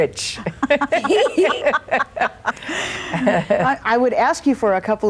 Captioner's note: all laughing